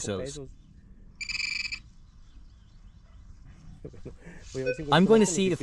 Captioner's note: beeping